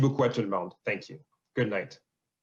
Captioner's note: speaking French